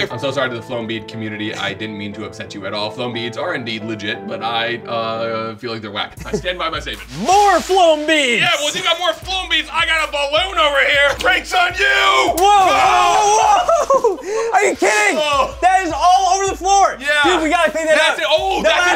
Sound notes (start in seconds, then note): 11.8 both screaming